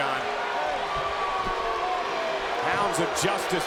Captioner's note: crowd boos